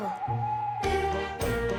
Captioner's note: owl hooting